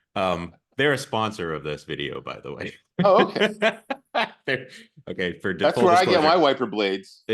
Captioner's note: polite laughs